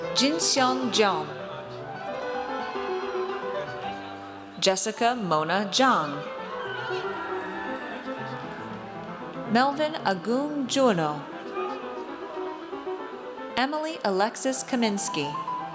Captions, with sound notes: Jinseong Jeon. (audience cheers) Jessica Mona Jiang. (audience cheers) Melvin Agung Juwono. Emily Alexis Kamienski.